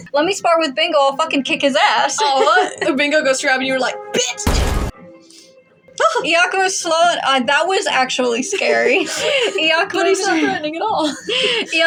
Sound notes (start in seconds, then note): 2.1 chuckle; 4.4 crash; 6.0 eager Yelp; 8.9 snicker; 8.9 quiet Laugh; 10.8 chuckle